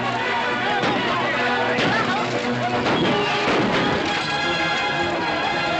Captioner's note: gunshots